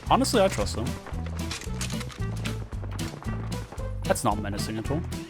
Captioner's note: sound of gunshots nearby